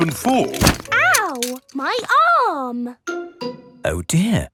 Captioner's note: thumps